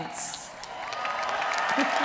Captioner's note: applause